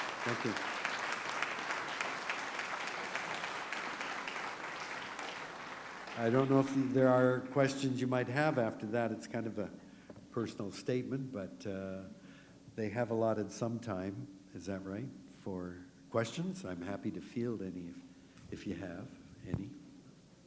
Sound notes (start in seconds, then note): 1.6 applause